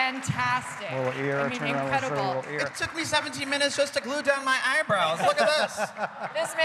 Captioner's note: cheers and applause